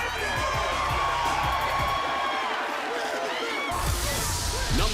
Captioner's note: cheers and applause